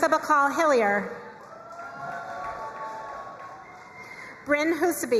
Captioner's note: crowd cheering and applauding